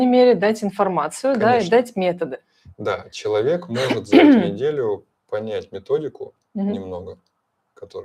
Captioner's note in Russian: откашливается